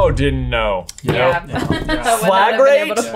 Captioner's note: chuckles